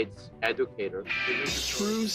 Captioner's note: soundbite of tv show, "the real world san francisco"